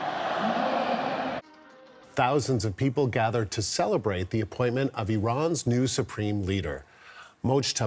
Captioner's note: crowd noise